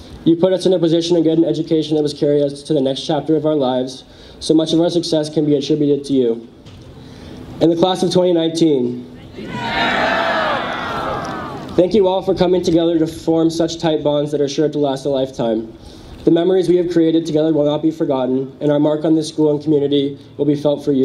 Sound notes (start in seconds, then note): 9.3 audience cheers